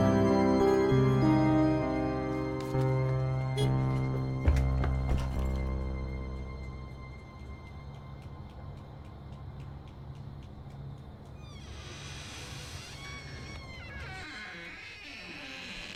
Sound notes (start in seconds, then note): 3.3 horn honking; 11.4 door creaking